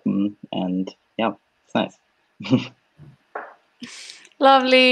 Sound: laughs

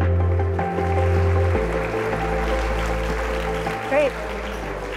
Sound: pleasant tempo music; audience applauding

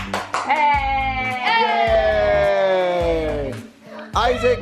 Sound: clapping and cheering

